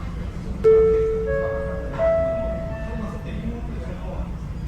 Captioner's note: chime sound of the onboard announcement